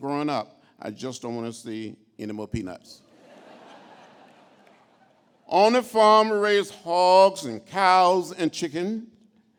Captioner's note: laughter